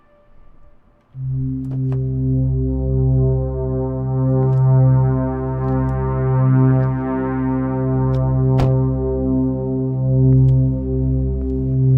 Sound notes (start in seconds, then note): 1.5 dark synth music; 8.5 car door slams